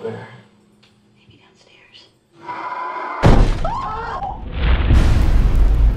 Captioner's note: demonic scream; bang; impact